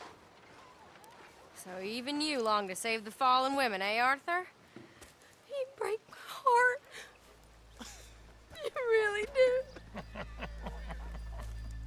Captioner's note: Bill and Lenny laugh